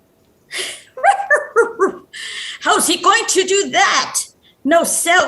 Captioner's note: laughs